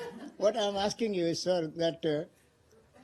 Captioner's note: laughter